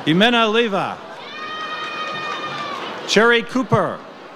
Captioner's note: audience cheers